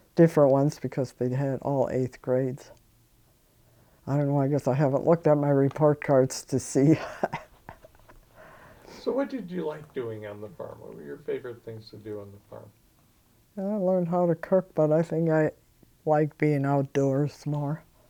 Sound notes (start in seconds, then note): 6.9 chuckling